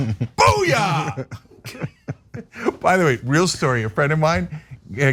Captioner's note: laugh